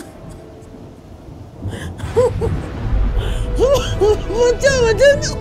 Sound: crying

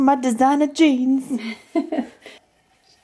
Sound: laughs

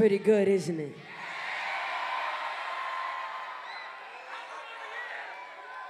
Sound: cheering

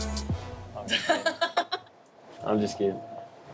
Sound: laughs

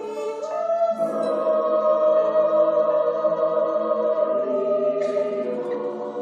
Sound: choir speaks in foreign language

